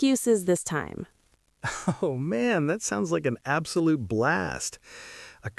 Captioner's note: laughing